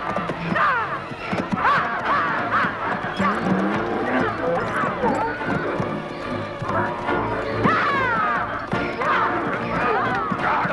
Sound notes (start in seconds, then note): 3.6 donkeys braying; 7.7 Hundra shouting